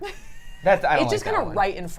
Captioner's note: laughs